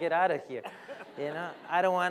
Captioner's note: laughter